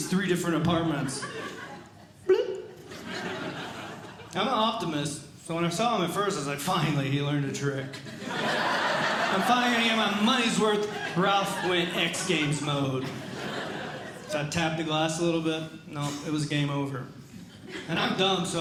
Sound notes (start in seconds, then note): 2.3 ”Bloop”; 3.2 audience Laughing; 7.9 audience Laughing